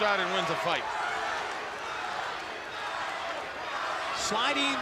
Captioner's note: crowd cheering